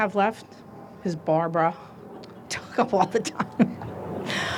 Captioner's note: chuckles